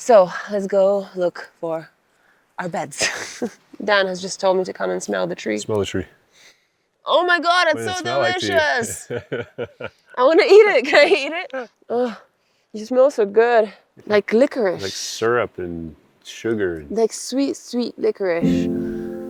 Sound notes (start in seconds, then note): 3.0 laughs; 6.4 inhales; 7.8 laughs; 18.4 calm music; 19.0 grass rustling